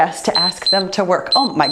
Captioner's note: timer beeps